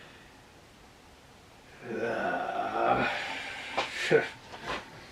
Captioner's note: sighs; laughter and humming